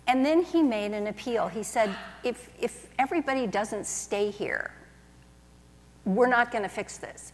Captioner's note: none